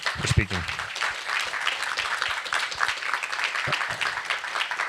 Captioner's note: applause